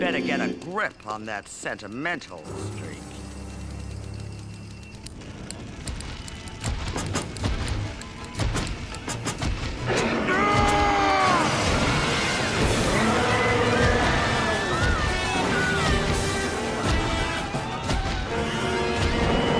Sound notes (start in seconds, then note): 9.1 roaring; 9.9 screaming